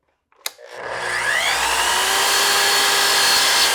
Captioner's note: saw whirring